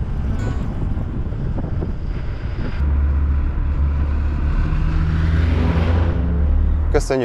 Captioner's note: engine sounds and driving noises